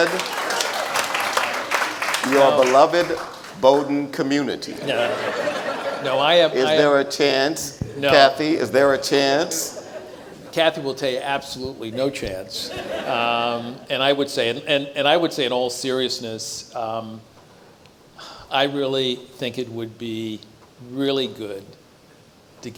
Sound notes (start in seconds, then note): 0.0 audience applauds; 4.6 audience laughs